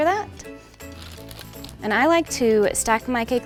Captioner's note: parchment paper crinkling